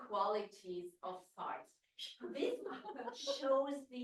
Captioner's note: audience laughs